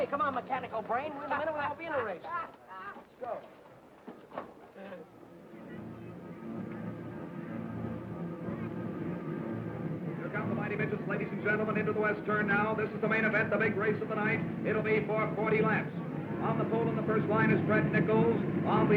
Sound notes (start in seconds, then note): 5.9 cars revving; 5.9 dramatic music